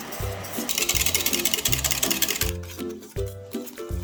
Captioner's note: whisk